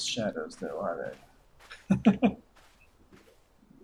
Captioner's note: chuckles